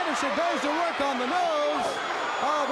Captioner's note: crowd cheering